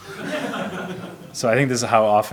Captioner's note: audience laughs